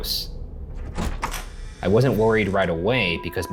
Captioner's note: door creaking